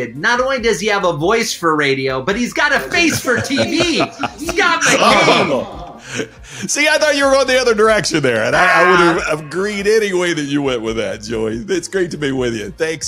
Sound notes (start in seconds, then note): 4.1 laughing